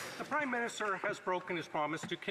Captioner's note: applause